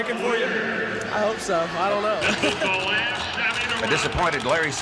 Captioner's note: laughs